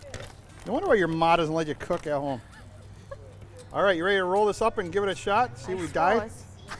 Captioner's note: laughing